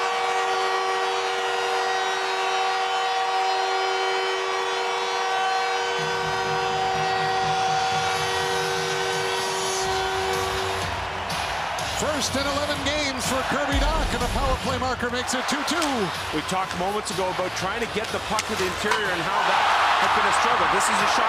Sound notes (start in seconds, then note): 6.8 cheering and Applause; 8.4 horn Sounding